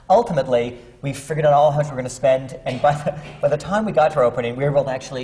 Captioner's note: laughs